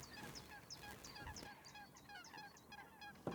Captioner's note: chattering animal sounds